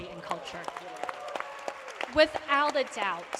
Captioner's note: applause